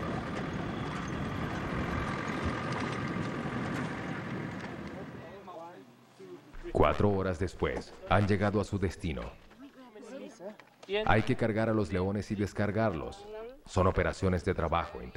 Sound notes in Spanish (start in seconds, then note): 0.0 murmullos; 0.0 sonido automotor